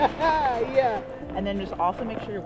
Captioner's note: laughs